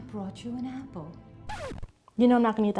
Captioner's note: record scratch